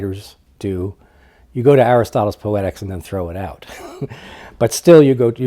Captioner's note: laughs